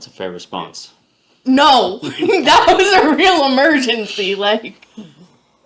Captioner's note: laughing